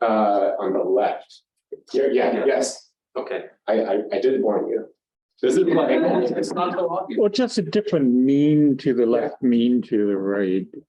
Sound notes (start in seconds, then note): 3.2 audience chuckle